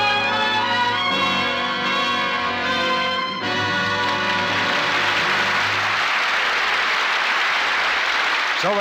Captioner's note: applause